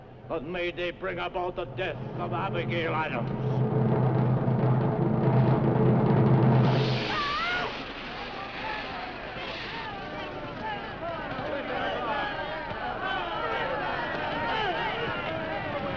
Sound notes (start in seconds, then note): 7.1 Elizabeth screaming; 10.1 crowd shouting